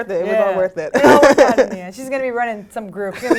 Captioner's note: laugh